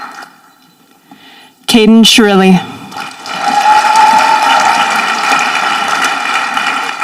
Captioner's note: audience applauding